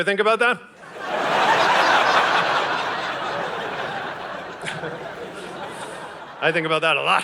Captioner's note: audience laughing